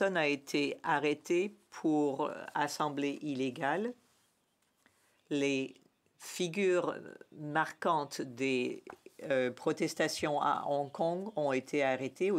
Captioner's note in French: voix de l'interprète